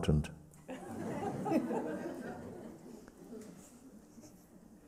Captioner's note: laughter